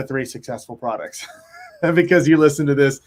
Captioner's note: laughs